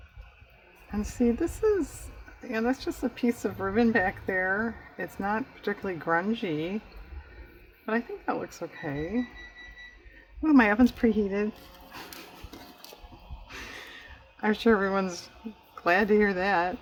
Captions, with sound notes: and see this is-- that's just a piece of ribbon back there, it's not particularly grungy, but i think that looks okay (electronic beeping) oh my oven's preheated i'm sure everyone's glad to hear that